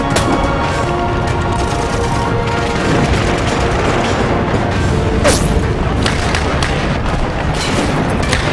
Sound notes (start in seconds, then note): 0.1 guns firing